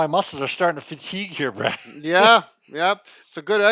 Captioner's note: laughing